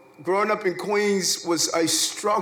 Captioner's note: none